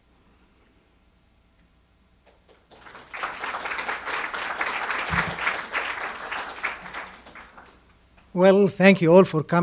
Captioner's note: audience applause